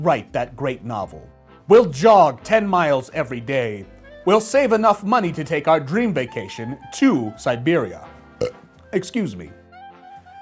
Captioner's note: burps